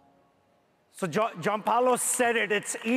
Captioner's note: audience applauds